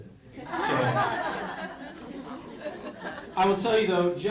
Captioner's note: crowd laughs